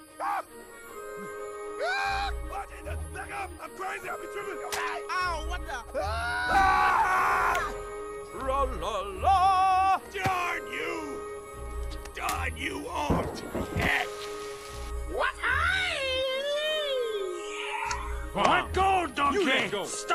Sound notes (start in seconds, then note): 1.2 makes kung fu noises; 6.0 shrieks; 15.3 makes kung fu noises